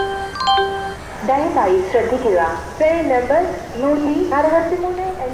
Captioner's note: railway announcement